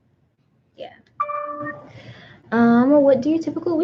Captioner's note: computer dings